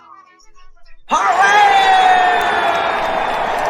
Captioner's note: all cheering